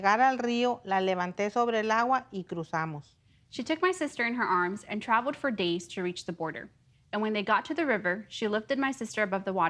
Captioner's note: speaking foreign language